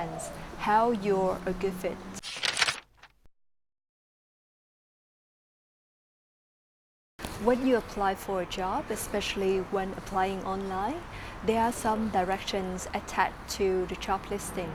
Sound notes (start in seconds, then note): 2.2 paper crumpling